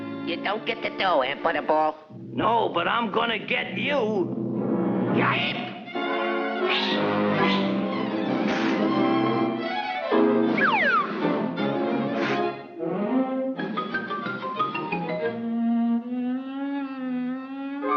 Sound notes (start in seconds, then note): 4.7 dramatic music; 6.4 dramatic music continues; 10.5 slide whistle descends; 12.3 playful music